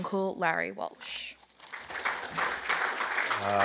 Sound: applause

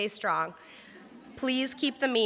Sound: crowd laughs

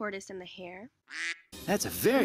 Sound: quack

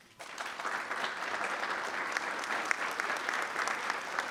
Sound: attendees applauding

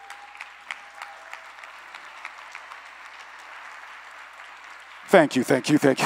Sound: applause

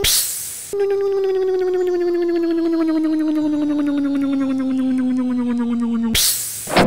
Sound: hiss; electric motor hum; hiss; click

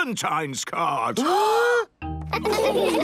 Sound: both gasping

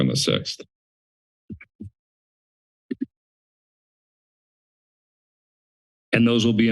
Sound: pause

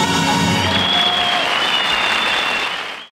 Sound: crowd cheering

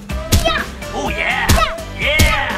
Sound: upbeat music; pumpkin thudding; grunting

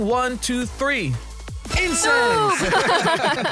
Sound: laughs

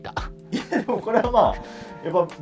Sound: laughing

